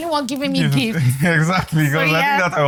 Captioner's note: laughs